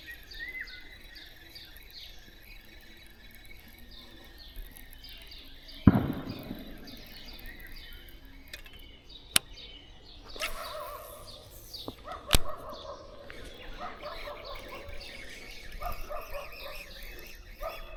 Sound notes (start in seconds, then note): 9.2 birds chirping